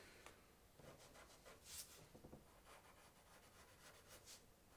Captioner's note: pencil scratching